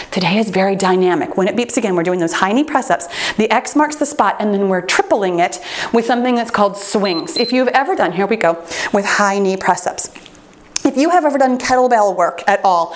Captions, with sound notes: Today is very dynamic. When it beeps again, we're doing those high knee press-ups. The X marks the spot, and then we're tripling it with something that's called swings. (timer beeps) If you've ever done... Here we go with high knee press-ups. If you have ever done kettlebell work at all,